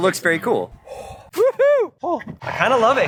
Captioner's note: exhales